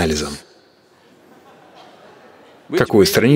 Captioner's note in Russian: смех